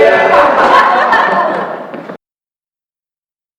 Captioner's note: voices laugh jeeringly